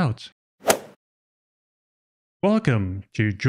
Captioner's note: golf ball hit sound effect